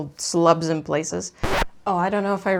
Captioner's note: record scratch